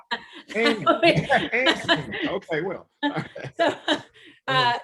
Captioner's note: both laughing